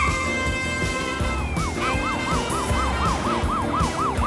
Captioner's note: siren blaring